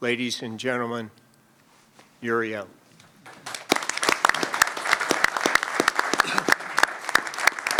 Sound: applause

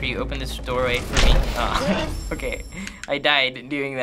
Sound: in game: chime

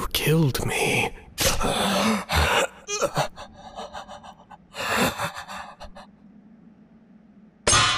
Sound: hasty breathing due being stabbing

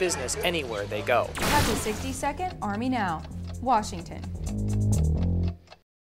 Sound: clock ticking; bass guitar playing

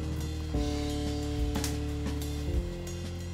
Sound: cigarette hits the ground

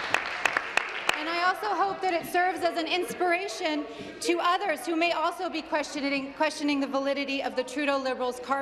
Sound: applause

